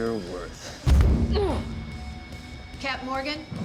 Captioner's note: grunts